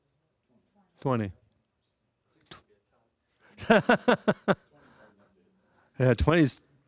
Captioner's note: laughing